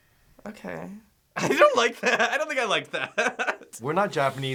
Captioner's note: laughs